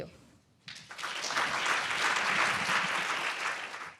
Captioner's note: audience applauds